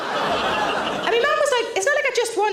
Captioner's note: audience laughing